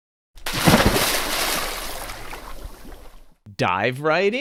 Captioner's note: water splashes